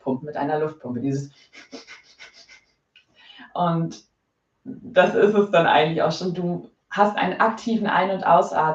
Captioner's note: makes an air pumping sound